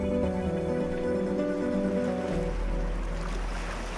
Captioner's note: water Splashing